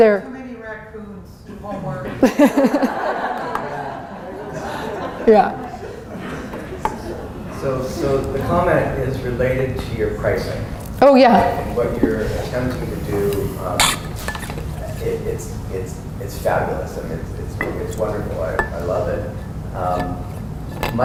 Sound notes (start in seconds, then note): 1.5 laughter